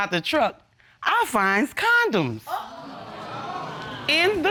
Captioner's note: audience exclaiming